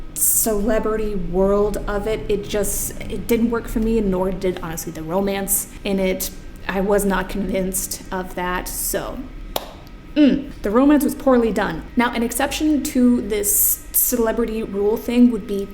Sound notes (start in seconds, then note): 9.6 claps